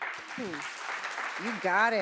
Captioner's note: audience applauds